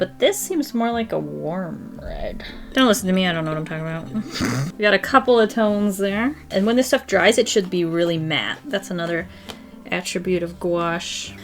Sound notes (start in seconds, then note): 4.1 laughs